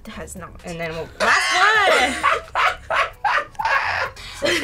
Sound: laughs

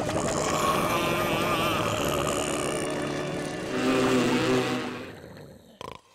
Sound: growling

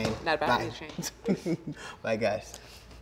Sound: laughs

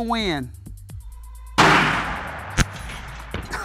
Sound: gunshot

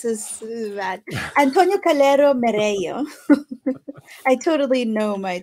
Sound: chuckles

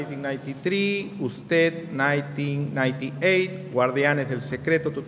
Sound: speaking in a foreign language

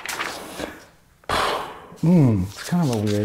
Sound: blowing air

